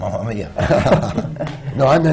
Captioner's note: laughter